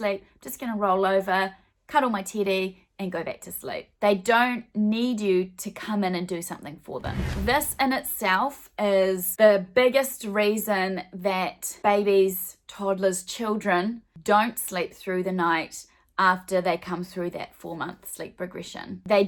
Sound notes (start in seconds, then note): 7.0 swooshing